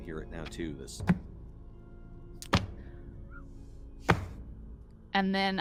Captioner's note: game Master thumping table